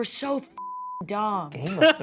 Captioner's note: beep